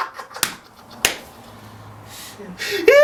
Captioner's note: laughing Hysterically